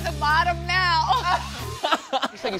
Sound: laughs

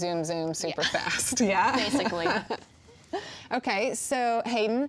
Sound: laughs

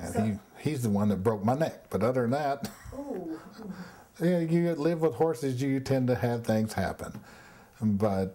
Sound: wheeze

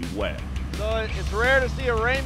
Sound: boat engine running

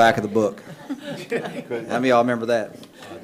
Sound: attendees laughing

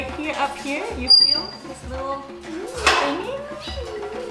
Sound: birds chirping

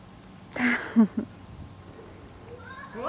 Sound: laughs

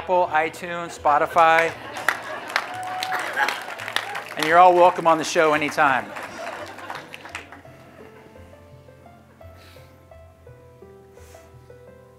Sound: applause

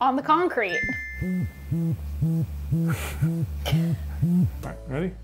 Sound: musical trill; vibrator pulses

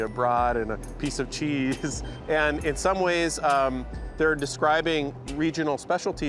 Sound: chuckles

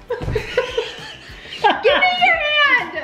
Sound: laughing

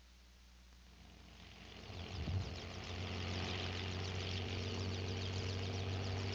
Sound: helicopter engine running

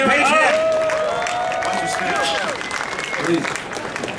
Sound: audience clapping

